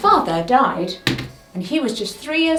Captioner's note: pointer thuds